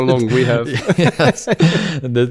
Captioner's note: laughs